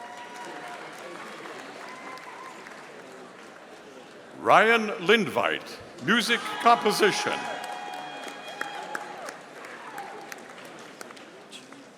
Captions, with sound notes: (audience applauding) Ryan Linvite, Music Composition. (audience cheering)